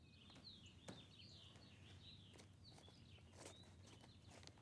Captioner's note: birds singing